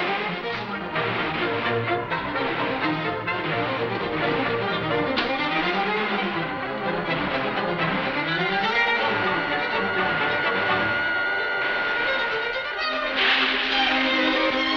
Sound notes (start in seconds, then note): 8.5 motor whirring; 11.1 upbeat dramatic music